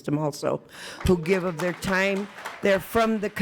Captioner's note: attendees applauding